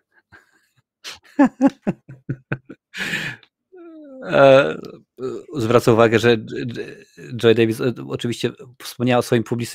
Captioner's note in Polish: śmiech